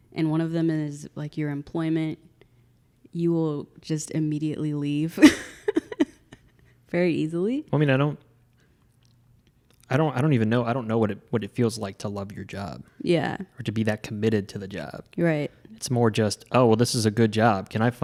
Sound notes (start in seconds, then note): 5.2 laughs